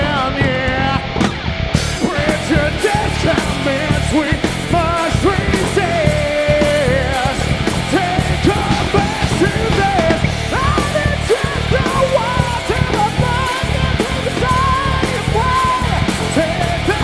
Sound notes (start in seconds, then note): none